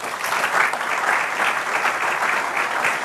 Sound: applause

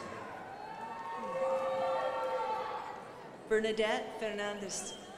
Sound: crowd applauding

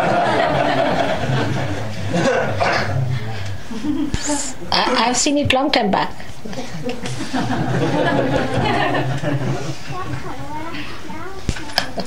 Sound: laughter; laughing

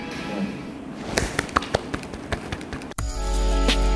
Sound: clap clap

